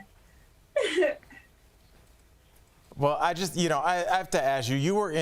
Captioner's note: laughter